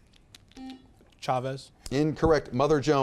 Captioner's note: buzzer beeps